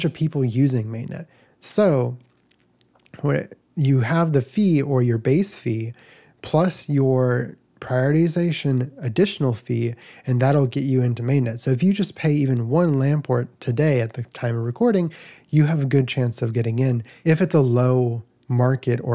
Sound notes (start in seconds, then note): none